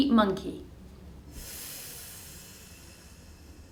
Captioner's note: long exhale